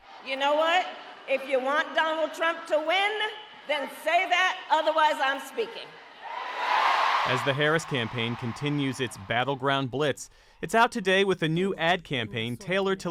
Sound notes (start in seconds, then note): 6.7 applause; 7.2 cheering